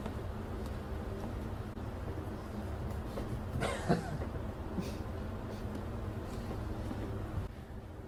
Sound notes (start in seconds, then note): 3.5 Mike chuckles